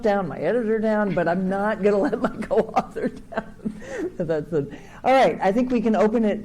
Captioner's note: laughing